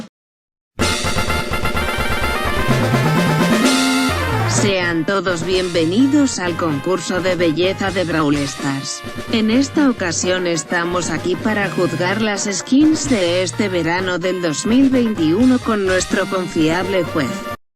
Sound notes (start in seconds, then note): 7.6 Yes, im using google translator voice